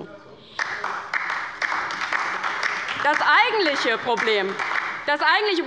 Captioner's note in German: Beifall bei der LINKEN und der SPD